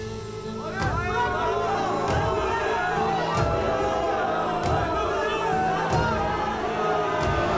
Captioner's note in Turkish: Kalabalık bağrışma sesleri